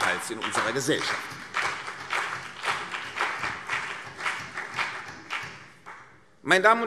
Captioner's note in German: Beifall CDU und BÜNDNIS 90/DIE GRÜNEN